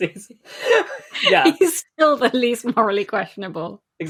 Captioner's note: laughing